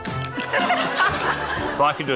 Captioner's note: laughter